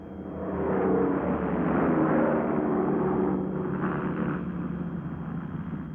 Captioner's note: plane engines rumbling